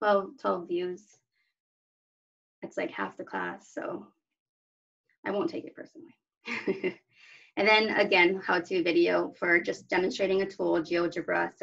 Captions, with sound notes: Well, 12 views. It's like half the class. So I won't take it personally. [LAUGHTER] And then again, how-to video for just demonstrating a tool, GeoGebra.